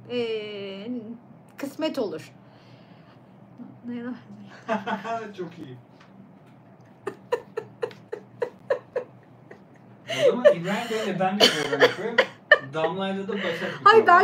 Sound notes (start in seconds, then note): 6.9 laughter